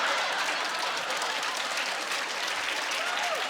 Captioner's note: laughter; applause